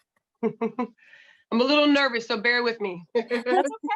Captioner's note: laughter